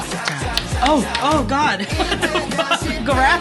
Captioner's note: laughs